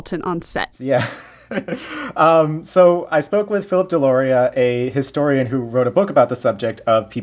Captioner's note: laughter